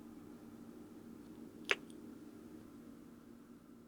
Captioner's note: kiss